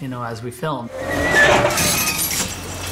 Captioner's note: cage whines